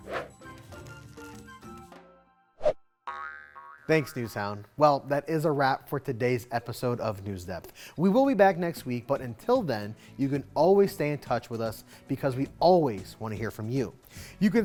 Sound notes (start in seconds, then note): 0.0 graphics whooshing; 0.0 lively music; 2.7 graphics whooshing; 3.0 graphics boinging